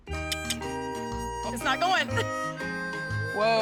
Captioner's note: clicks tongue